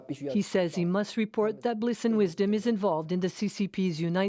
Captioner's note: speaking alternate language